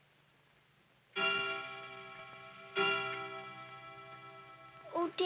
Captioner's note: clock chimes